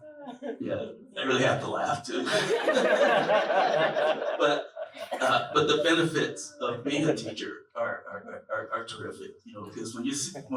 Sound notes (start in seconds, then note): 2.0 laughter